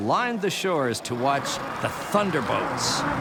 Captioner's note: engines growl